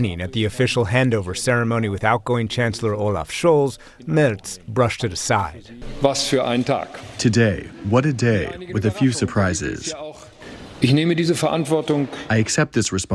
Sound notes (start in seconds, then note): 7.6 through translator